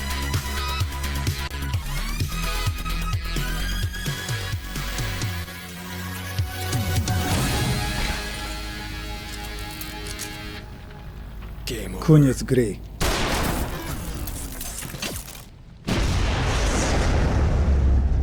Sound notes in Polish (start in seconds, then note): 13.4 szum ôd popszniōnyj maszineryje